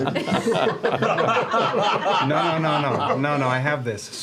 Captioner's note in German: Lachen